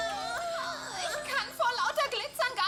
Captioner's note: gasping